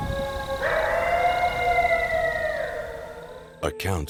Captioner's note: animal howling